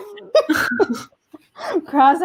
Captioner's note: chuckle